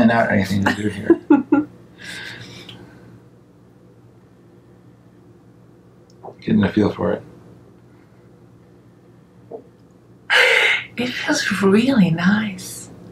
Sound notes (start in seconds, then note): 0.7 laughs